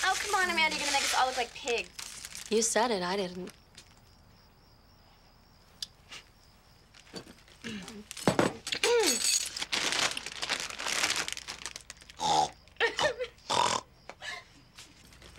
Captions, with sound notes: - Oh, come on, Amanda. You're going to make us all look like pigs. - You said it. I didn't. (dishes clattering) (snorts like a pig)